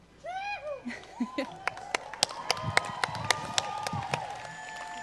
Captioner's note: cheering and applause